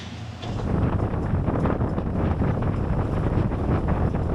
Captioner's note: wind blowing